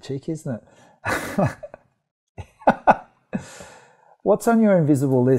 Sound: laughs

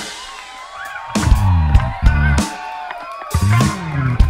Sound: audience cheers

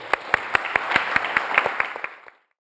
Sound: audience applauds

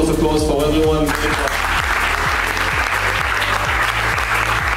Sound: applause

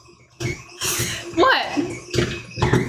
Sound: mixer malfunctioning

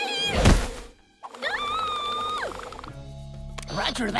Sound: screaming

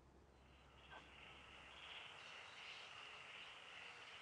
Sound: crickets chirping

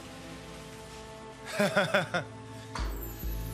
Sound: chuckles

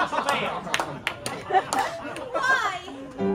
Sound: laughter

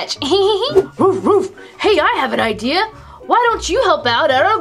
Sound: laughs; dog barking

